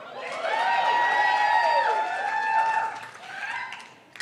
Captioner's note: cheering